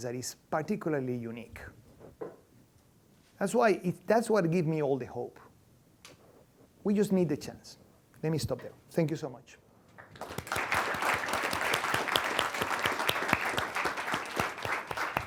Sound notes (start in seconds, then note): 10.0 applause